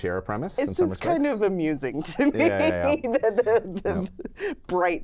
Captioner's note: laughs